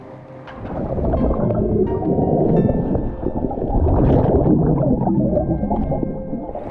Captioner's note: suspenseful music continues; water bubbling